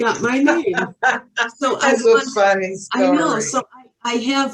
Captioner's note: laughing